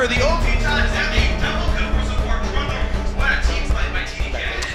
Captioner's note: commentator chatter